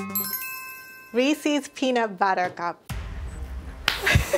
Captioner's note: laughs